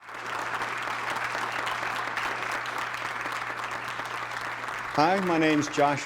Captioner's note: applause